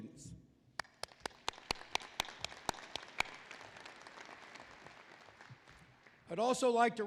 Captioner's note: applause